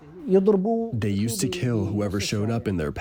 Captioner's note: through translator